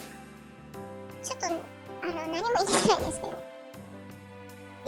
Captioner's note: laugh